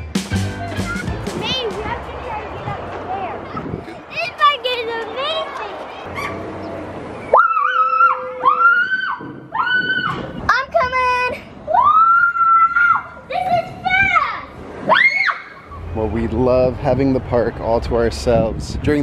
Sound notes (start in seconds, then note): 7.5 joyful screaming; 11.7 screaming; 14.8 screaming